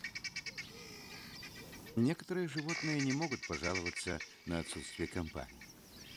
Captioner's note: squawking